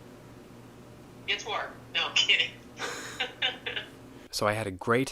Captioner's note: laughing